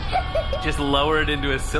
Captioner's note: laughter